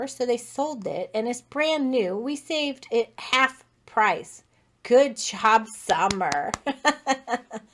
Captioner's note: clap clap clap